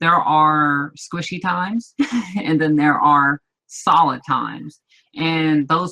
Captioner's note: laughs